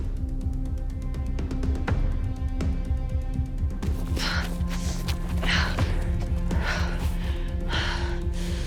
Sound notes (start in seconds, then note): 3.9 Gina panting